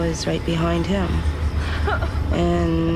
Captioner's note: whimpering